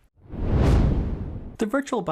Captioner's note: swoosh